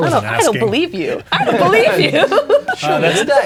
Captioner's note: laughing; players laughing